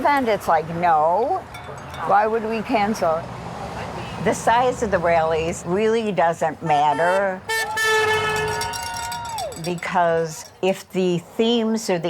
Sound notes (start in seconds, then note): 6.6 horn honking